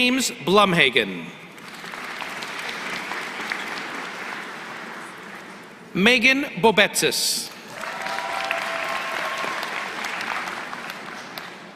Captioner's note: applause